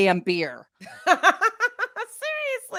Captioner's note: laughs